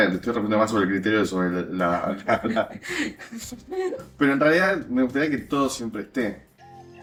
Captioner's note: laughs